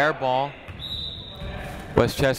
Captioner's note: whistle tweeting